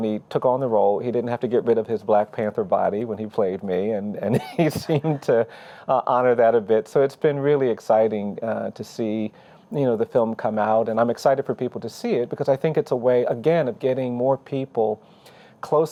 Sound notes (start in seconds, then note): 4.3 chuckling